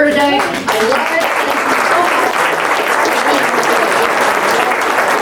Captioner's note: audience claps